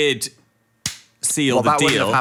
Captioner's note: hands clapping